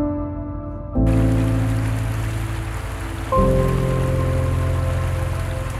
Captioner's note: river burbling